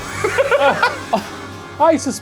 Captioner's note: laughs